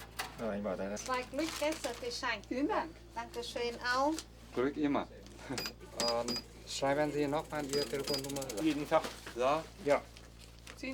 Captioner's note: speaking German